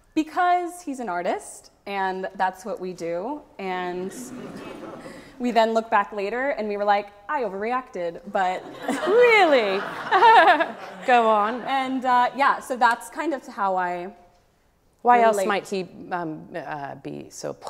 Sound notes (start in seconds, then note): 3.9 audience laughs; 10.6 laughs